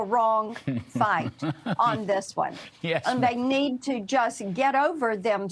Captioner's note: laughter